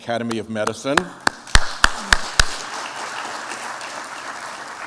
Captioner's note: applause